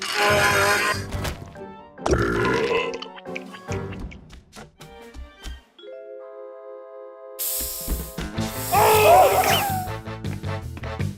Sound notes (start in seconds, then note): 2.0 burps; 7.4 aerosol sprays